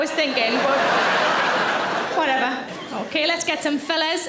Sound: audience laughs

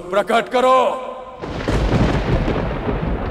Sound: thunder and lightening

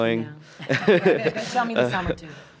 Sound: laughs

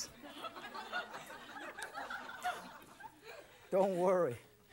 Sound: audience laughs

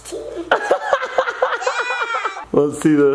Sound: laughs

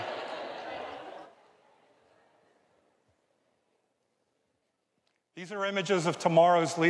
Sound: audience laughs

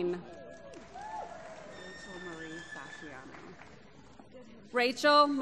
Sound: applause

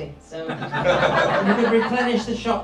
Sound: crowd laughs

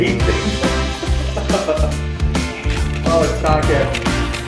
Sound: laughing

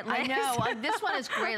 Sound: laughter

